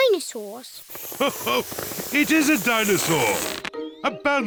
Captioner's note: laughs